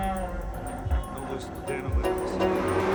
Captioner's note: chattering